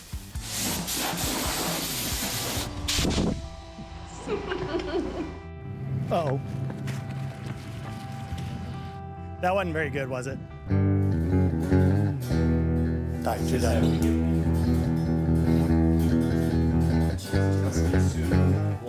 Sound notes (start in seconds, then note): 0.0 upbeat music; 0.4 loud air blowing; 4.2 laughing; 5.7 engines rumbling; 6.1 scraping sounds; 10.7 guitar strumming